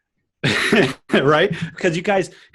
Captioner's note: laughs